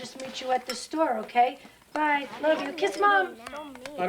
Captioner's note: kids bickering